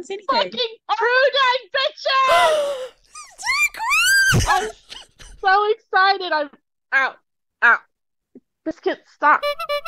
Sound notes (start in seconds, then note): 2.3 gasp; 2.5 high-pitched squeal; 9.2 clown horn